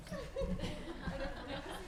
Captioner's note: laughter